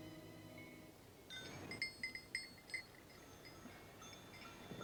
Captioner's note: bells ringing